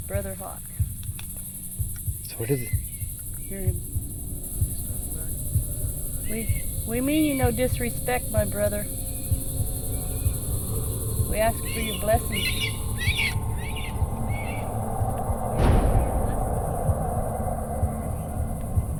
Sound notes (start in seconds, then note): 12.2 hawk screeching; 14.0 haunting music